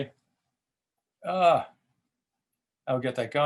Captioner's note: exclaims